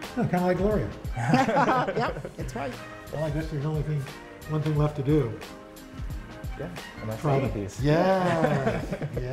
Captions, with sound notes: - Kind of like Gloria. (laughter) - Yep! That's right. - One thing left to do. - Gonna eat these. - Yes!